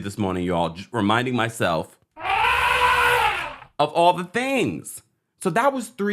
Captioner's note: elephant trumpets